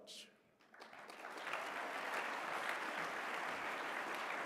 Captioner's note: applause